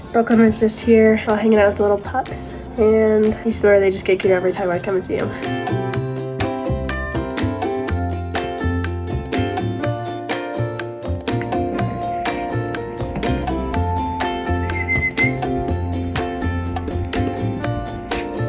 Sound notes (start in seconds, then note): 6.2 upbeat music; 14.5 whistles